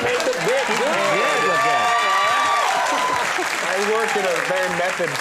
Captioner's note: audience cheering